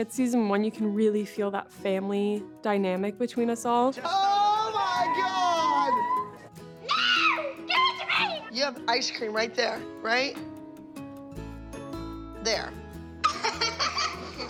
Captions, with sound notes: you can really feel that family dynamic between us all. -Oh, my God! -[girls exclaiming] No! Give it to me! You have ice cream right there. Right... there. [girls giggling]